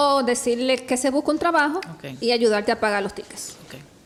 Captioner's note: speaks Spanish